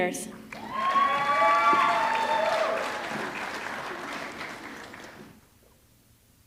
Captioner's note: audience clapping; audience cheering